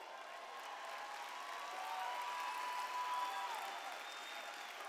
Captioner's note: cheers